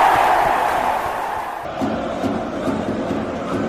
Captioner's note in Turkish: coşkulu tezahürat